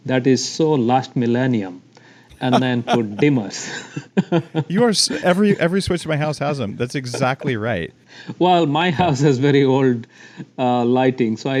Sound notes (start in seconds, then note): 2.3 both laugh